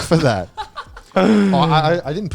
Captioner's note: laughs